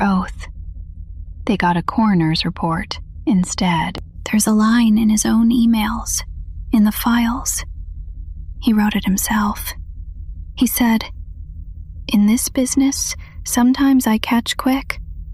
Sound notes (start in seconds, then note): 4.6 whispers